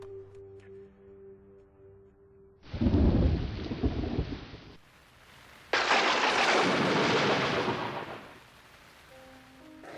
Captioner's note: sound of rain and thunder